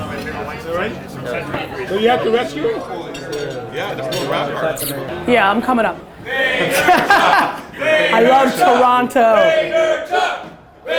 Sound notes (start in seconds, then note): 6.6 Gary laughing